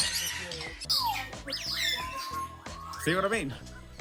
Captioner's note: birds chirping